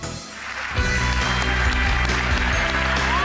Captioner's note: applause